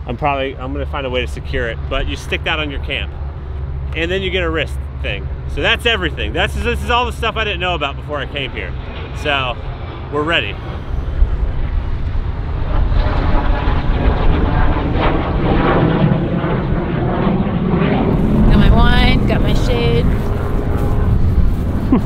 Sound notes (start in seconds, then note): 13.4 plane buzzes overhead